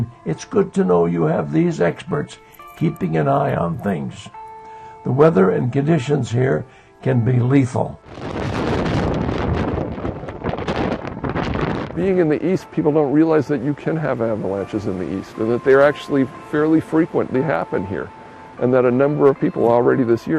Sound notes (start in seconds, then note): 7.8 wind blowing